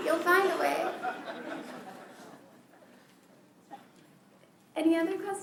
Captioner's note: laughter